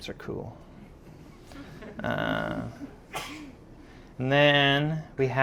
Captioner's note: audience laughing